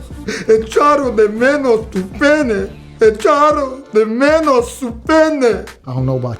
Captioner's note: speaking spanish